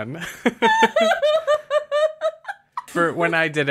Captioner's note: sustained laughing